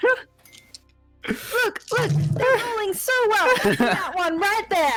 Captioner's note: laughs; dice clacks